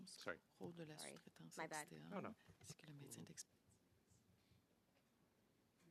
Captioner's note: speaking French